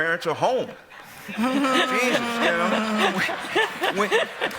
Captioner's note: laughter